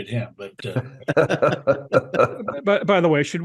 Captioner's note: laugh